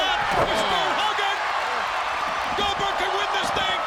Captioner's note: audience cheering